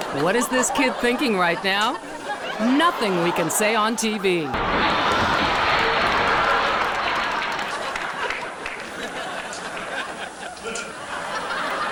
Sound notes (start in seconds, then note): 7.4 audience laughs